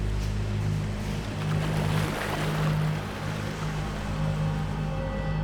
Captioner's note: splashing noise